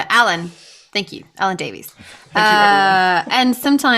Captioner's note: laughs